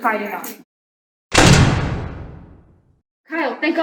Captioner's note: door slams